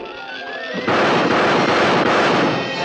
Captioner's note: gunshots